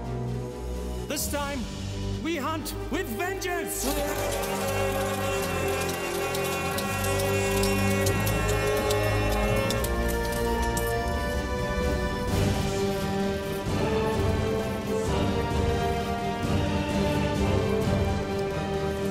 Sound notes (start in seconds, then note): 3.3 all shouting